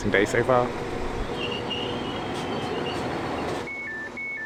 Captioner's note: train engine; doors beeping